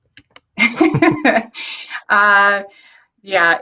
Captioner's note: laughs